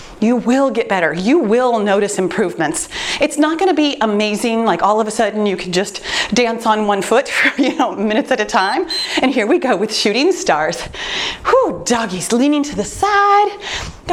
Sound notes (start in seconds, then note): 8.5 timer beeps